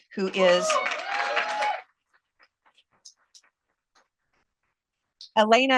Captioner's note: cheers, applause